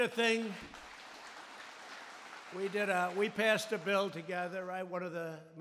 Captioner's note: applause